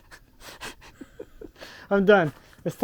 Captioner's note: chuckles